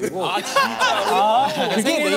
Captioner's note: laughing